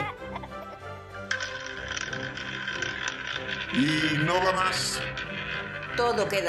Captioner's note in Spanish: Sonido de ruleta